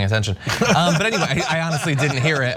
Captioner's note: laugh